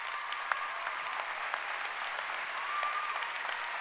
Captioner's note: cheering and applause